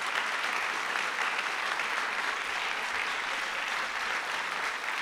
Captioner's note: applause